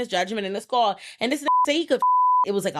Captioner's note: beep